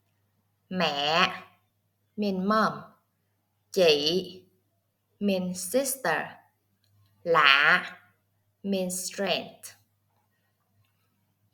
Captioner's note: Vietnamese